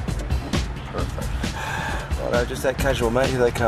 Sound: sigh

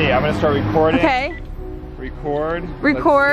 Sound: beep

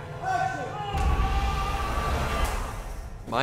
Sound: shouts

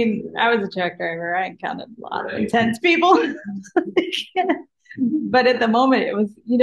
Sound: laughs

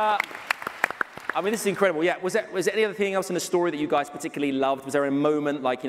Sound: cheers and applause

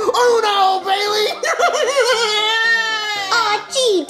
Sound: laughs

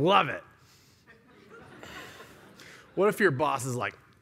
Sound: laughter

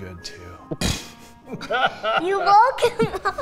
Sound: laughs

